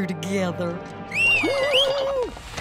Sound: whistling

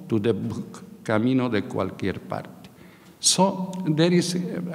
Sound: speaking in a foreign language

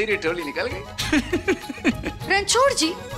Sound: chuckling

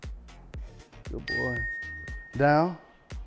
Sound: bell dings

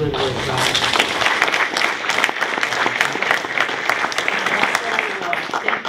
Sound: applause

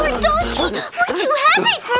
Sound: triplets grunting and yelling; donkey panting

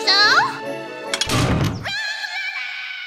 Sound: thunk

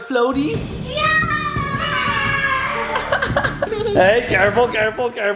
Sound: children yelling

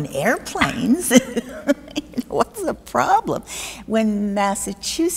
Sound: both laughing

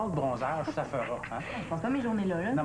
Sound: Rire

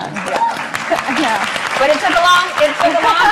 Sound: applauds

